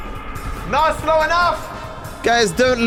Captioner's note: voice echoes